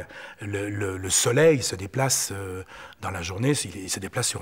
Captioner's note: French spoken audio